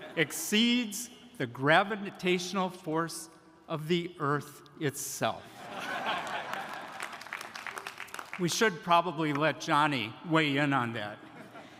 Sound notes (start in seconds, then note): 5.5 audience laughing; 6.1 audience applauding